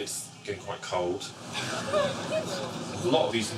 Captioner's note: women gasping